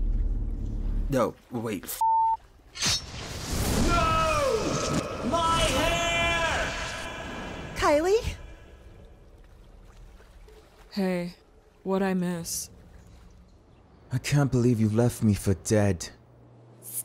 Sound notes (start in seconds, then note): 2.0 beep; 2.9 tooth slicing